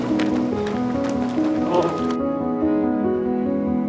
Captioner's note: group clapping; uplifting music continues